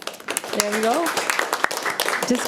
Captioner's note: audience applauding